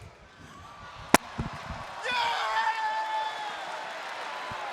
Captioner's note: crowd cheering